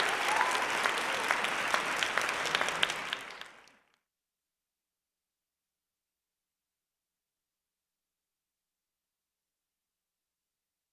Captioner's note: applause